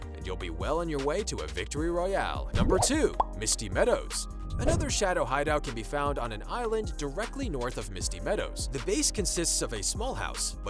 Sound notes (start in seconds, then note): 2.6 popping